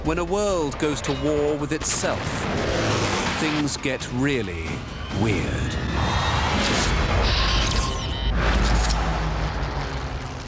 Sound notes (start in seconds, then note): 5.2 dramatic music; 6.1 whooshing sounds